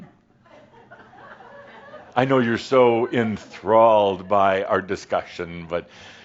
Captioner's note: a few chuckles